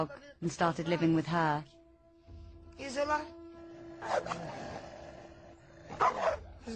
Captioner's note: barking; talking in foreign language